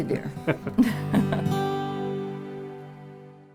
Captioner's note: laughing